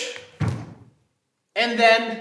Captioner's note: snapping